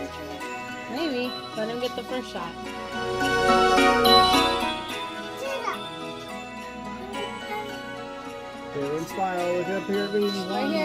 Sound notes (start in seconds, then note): 4.7 joyful Christmas music; 5.4 child exclamation